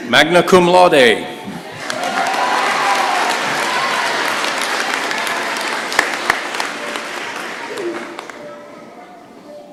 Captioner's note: applause